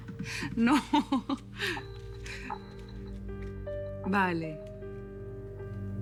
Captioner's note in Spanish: Risas